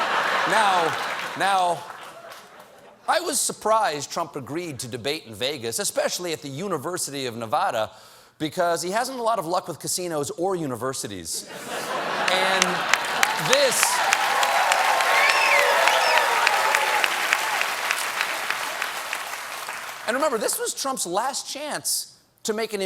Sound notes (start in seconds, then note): 12.2 cheers and applause